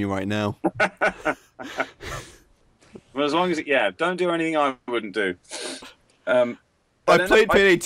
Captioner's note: laughs